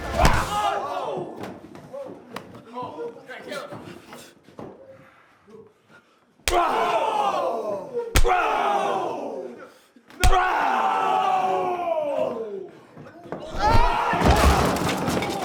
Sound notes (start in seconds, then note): 0.1 crowd gasping; 6.4 loud slap; 13.5 table breaks